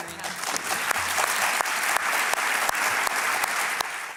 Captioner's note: applause